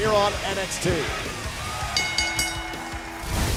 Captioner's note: bell ringing; crowd cheering